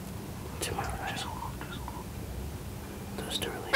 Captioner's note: whispering